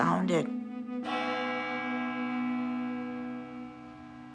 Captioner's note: chimes